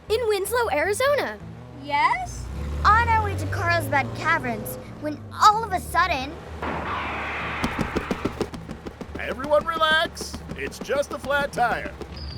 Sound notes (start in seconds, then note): 7.6 flat tire bumping